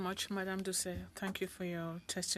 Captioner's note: speaking French